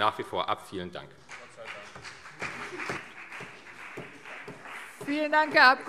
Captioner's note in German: Beifall CDU